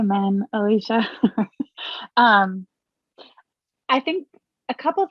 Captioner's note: chuckles